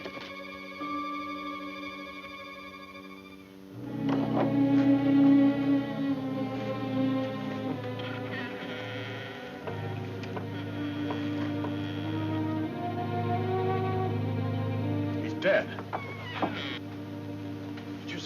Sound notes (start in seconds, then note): 4.6 door clicking; 4.6 somber music; 7.6 door creaking